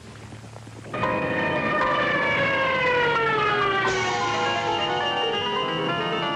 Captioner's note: airplane screaming; erratic dramatic music; bomb whistling